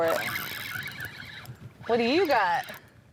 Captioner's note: line whirring